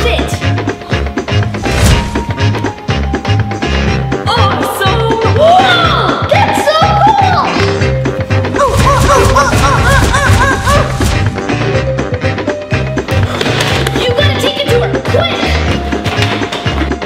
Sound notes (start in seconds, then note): 0.2 upbeat music; 8.5 grunts repeatedly